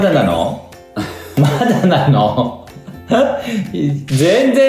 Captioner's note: laughs